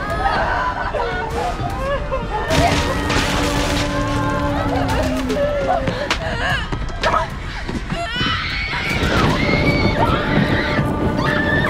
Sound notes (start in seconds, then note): 2.4 electricity buzzing; 8.7 woman screaming